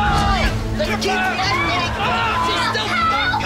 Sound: screaming

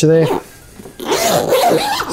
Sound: zip closing

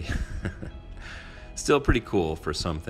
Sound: laughing

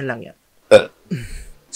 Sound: random burp

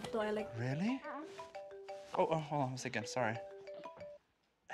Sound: phone ringing

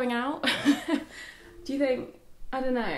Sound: laughing

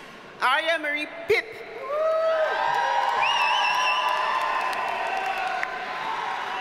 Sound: audience cheers and applauds

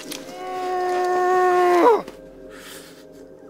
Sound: screams

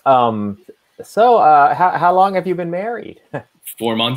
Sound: chuckling

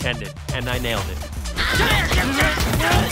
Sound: grunting

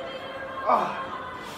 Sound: moans

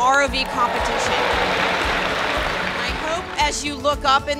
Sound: applause

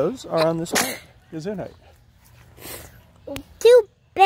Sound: sneezes

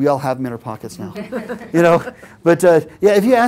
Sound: laugh

